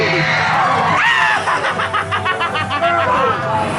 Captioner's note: laughs